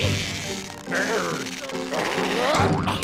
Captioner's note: straining